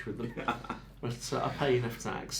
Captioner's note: laughing